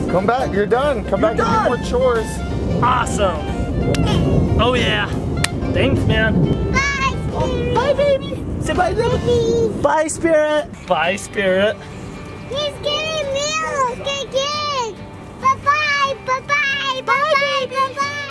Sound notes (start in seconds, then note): 3.8 slaps hand; 3.8 slap of high five